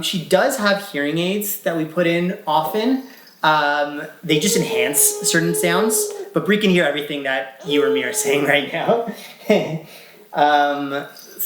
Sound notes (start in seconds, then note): 4.4 vocalizing; 10.7 laughs